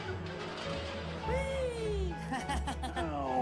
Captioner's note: laughing